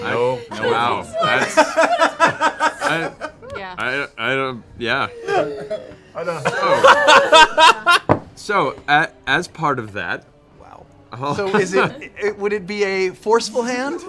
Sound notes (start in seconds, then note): 5.2 laughter